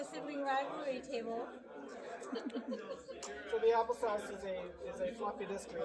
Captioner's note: crowd Noise